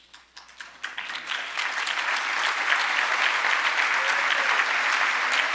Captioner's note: audience applauding